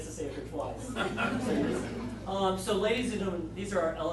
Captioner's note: audience laughing